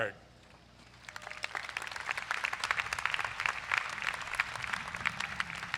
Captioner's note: crowd applauds